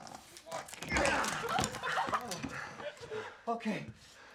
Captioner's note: laughing and cheering